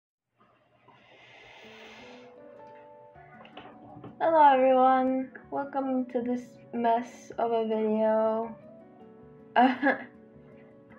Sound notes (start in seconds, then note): 0.9 inhales; 9.6 nervous laugh